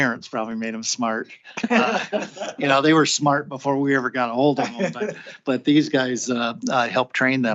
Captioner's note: laughter